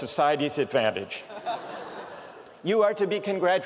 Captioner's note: laughter